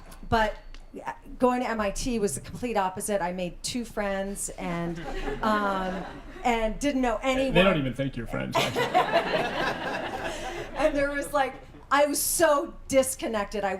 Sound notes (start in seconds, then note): 8.5 laughter